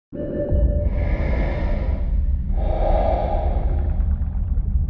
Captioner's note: heavy breathing